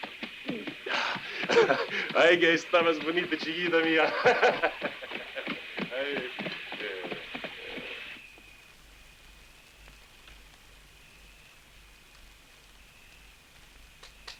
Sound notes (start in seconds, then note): 2.1 Guadalupano speaking in Spanish; 8.1 insects chirring